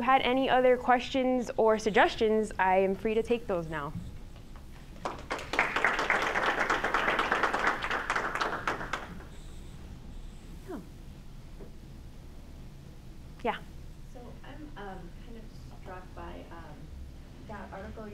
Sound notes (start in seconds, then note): 5.0 applause